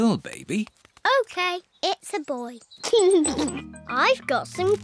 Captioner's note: giggles